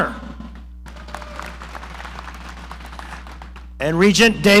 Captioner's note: audience applauding